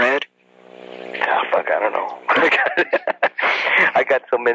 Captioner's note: laughs